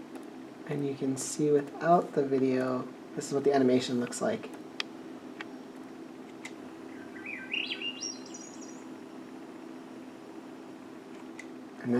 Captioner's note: Swainson's thrush song